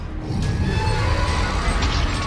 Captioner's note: roars